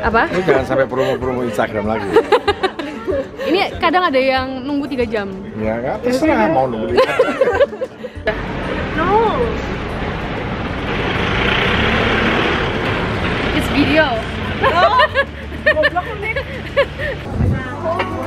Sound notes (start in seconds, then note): 0.9 chuckled; 6.9 chuckled; 14.5 chuckled